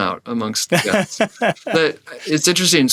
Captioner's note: laughs